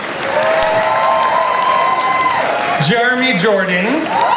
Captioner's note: audience applauds